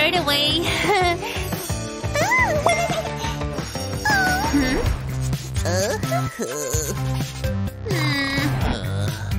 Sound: groans

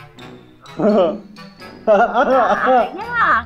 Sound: fake laughs

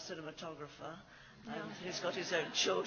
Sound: laughs

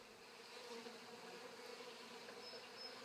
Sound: humming, birdsong

